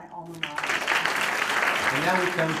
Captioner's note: applause